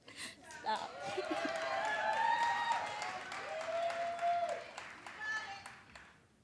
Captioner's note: audience cheers and applauds